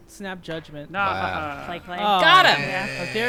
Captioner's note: group chuckling